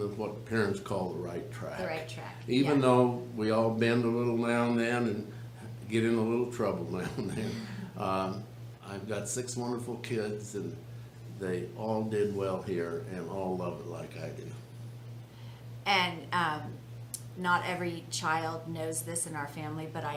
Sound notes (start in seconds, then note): 7.0 laughs